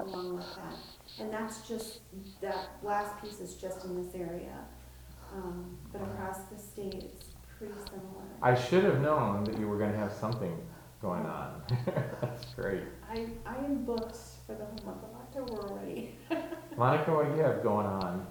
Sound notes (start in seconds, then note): 11.6 chuckling; 16.0 laughing